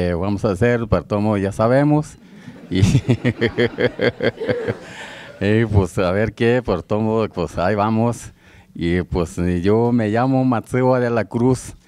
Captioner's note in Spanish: risas